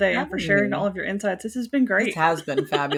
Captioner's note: laughing